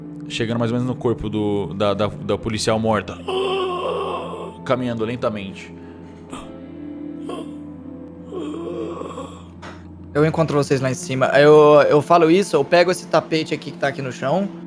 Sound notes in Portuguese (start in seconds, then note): 3.2 grunhidos; 8.2 grunhidos